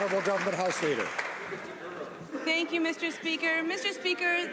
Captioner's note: some Applause